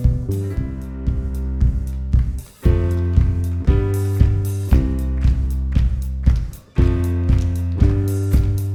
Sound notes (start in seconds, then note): 2.7 lively music; 5.2 audience claps